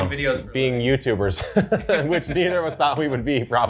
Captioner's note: laughs